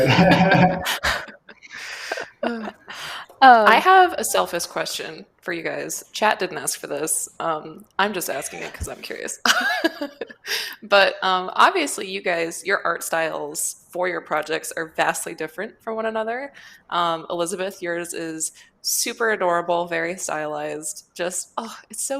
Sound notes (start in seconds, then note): 0.0 laughter; 8.1 laughs